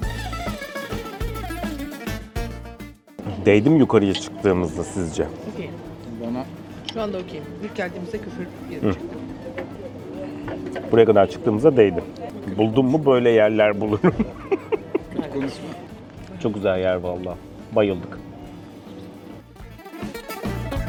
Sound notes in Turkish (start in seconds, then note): 14.0 kahkaha